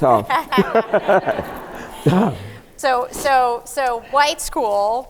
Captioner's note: laughter